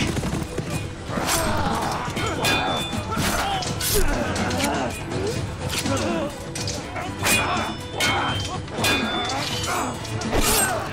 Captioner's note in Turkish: Kılıç ve Çatışma Sesleri